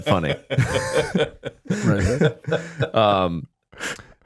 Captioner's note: Matt laughing